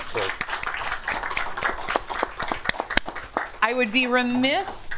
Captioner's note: audience applauds